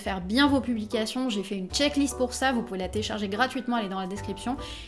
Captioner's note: in french only